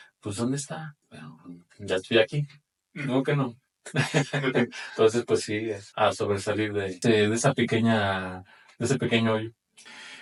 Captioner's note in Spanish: risas